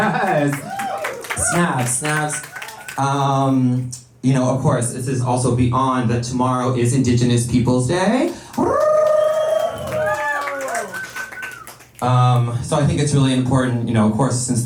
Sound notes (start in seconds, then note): 8.2 applause